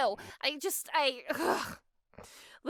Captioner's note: groans